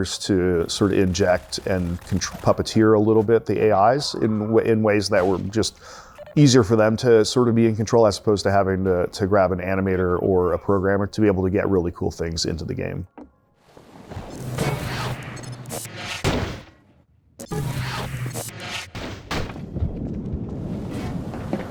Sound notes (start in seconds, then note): 14.3 loud whirring; 14.3 wood thuds on ground